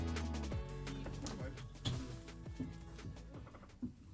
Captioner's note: flap